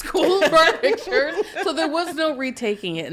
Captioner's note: podcasters laughing